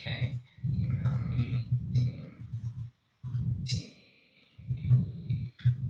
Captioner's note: mumbles under breath